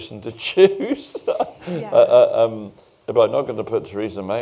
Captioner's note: laughs